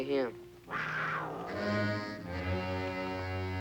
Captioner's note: panther snarling